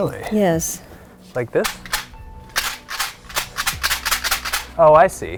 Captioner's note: device rattling